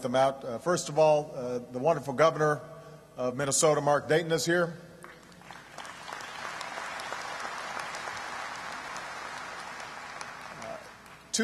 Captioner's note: applause